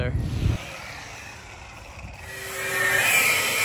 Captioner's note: engine revving